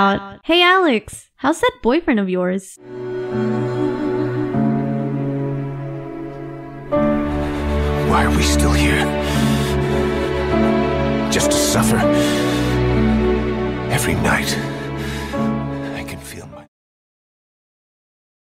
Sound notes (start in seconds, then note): 2.8 dramatic music; 9.6 intense breath in; 14.8 another intense breath in